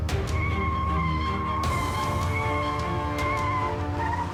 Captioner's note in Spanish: chillido de neumáticos